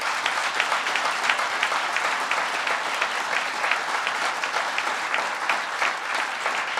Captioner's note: applause